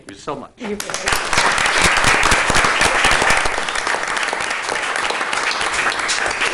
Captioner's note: applause